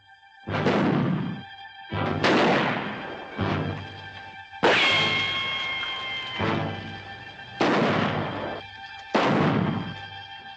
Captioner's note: gunshots - tense music